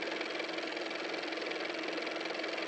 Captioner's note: car motor